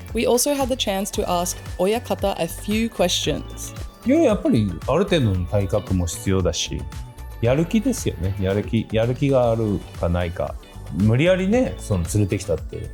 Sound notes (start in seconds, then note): 4.1 speaks Japanese; 4.1 upbeat music